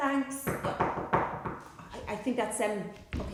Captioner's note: knock at the door